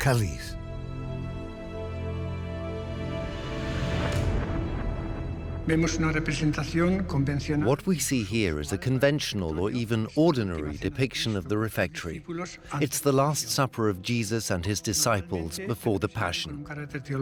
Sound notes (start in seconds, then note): 5.5 in Spanish; 7.7 dubbed in English